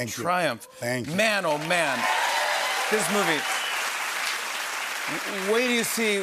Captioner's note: cheers and applause